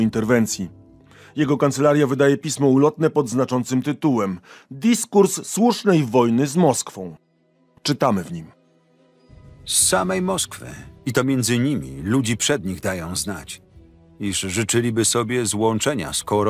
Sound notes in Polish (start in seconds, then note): 8.8 Lektor